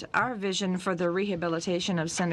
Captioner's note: speaking french